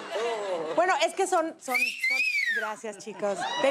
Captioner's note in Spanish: Silbido